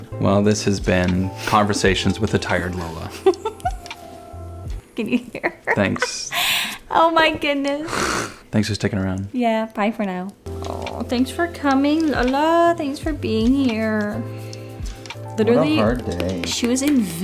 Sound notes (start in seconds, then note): 2.7 giggles